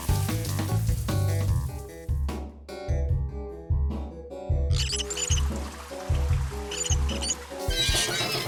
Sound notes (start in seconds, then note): 4.7 knob squeaking